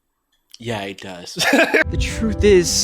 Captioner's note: laughs